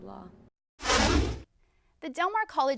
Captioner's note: deep swooshing